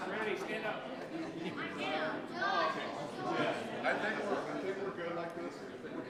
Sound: people chattering indistinctly

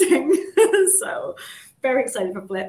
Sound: chuckles

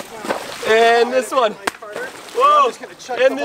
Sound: splashing

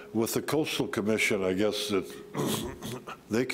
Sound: clears throat

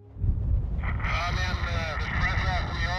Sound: speaks indistinctly over radio

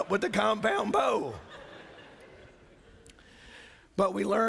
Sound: laughter

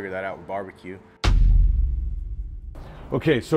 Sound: text thuds

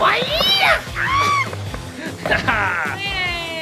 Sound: shrieking

